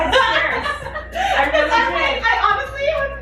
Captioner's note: laughing